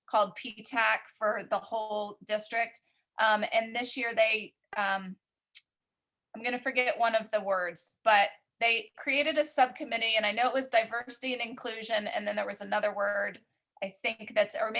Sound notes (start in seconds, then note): none